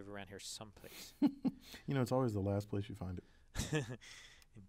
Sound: laugh

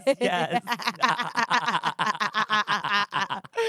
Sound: both laughing

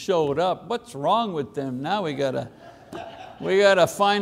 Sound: congregation laughing

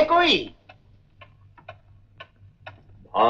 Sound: clock ticking

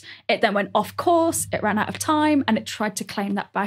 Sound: none

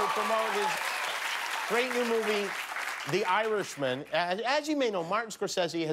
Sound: cheers and applause

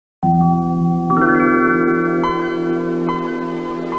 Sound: Windows 95 computer startup/ Office for Windows 2000 sound plays

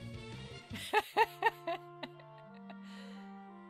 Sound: laughing

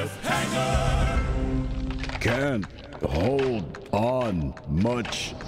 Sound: branch breaking

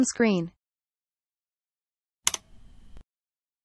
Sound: click sound

